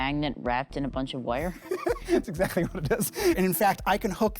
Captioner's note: laughing